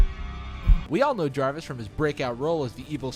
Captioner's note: brooding music; voiceover